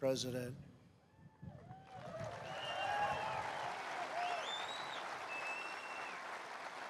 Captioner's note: applause